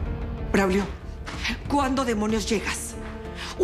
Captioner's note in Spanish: none